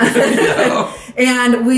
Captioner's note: both laughing